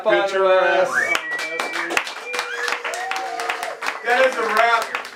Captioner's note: applause; cheering